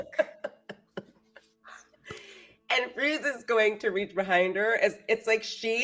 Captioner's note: laughs